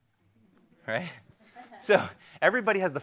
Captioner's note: crowd laughs